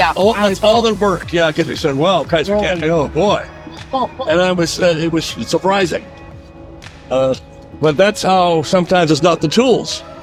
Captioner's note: laughing